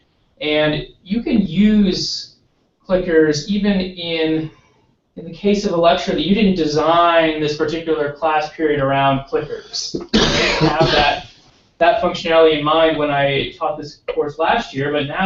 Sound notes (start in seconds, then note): 10.0 cough